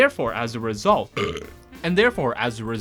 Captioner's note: burping